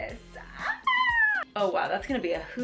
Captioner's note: squealing